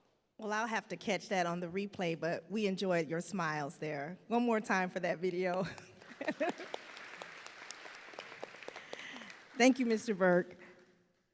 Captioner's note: applause